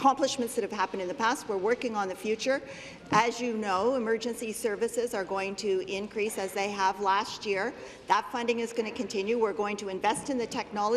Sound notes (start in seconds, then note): none